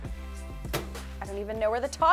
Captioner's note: washer door popping open; washer door popping shut